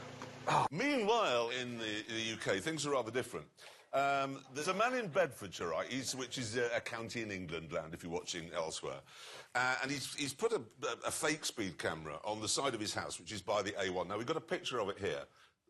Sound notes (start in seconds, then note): none